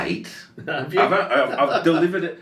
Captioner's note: laughing